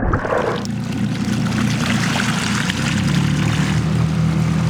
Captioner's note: engine rumbles